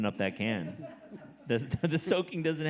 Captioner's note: audience laughing